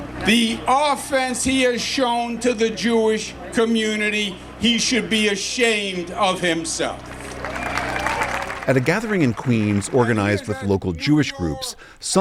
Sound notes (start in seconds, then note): 8.6 cheering